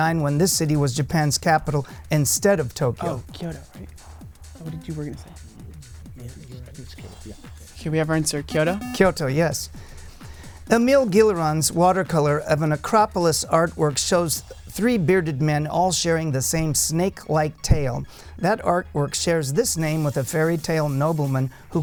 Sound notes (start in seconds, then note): 3.2 wispering